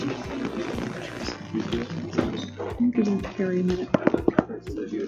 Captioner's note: gavel banging